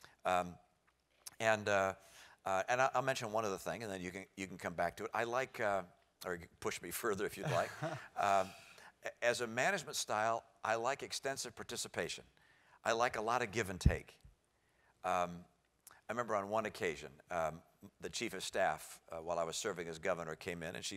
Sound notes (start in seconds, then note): 7.4 laugh